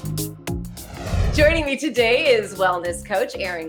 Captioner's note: bouncy music; graphics whooshing